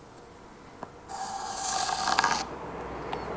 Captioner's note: soft scraping